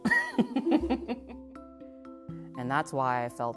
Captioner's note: laughs